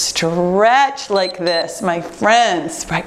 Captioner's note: timer beeps